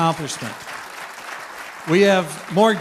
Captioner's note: applause